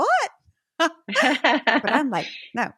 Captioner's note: laughing